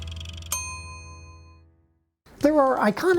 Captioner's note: bell dings